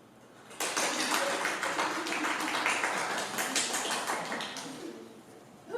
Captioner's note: the LADIES applaud enthusiastically